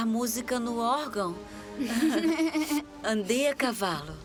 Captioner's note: laughs